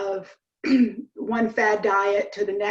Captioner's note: clears throat